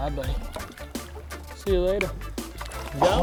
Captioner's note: fish splashing